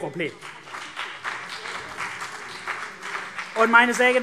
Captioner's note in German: Beifall CDU und BÜNDNIS 90/DIE GRÜNEN